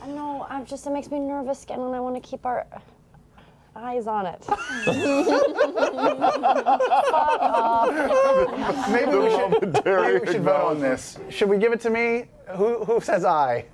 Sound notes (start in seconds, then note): 4.4 laughter